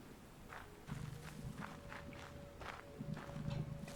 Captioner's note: none